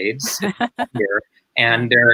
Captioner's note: laughing